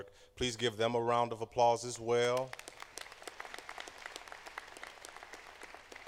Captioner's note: applause